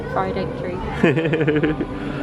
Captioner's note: laughing